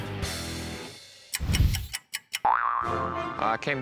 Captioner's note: loud boing; clock ticking